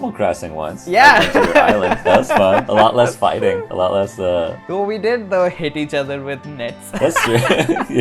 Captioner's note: laughter; laughs